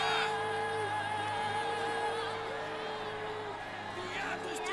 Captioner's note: chanting